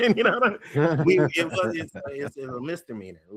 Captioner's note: all Laughing